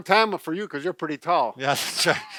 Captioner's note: laughter